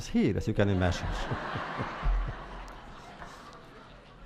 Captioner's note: laughter